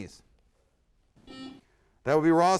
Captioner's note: buzzer sounds